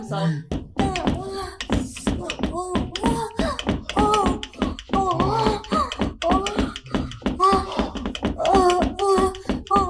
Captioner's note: lustful thumping and groaning coming from the other side of the door continues